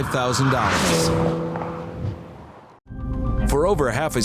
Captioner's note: car engine roaring